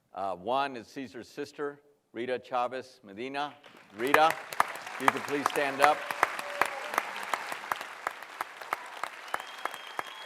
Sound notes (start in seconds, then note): 6.1 cheering and applause